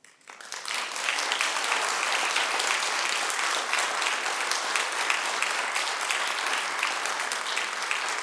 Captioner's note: applause